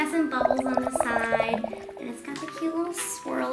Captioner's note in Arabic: ضجيج فقاعة